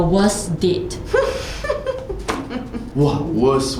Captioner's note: laughing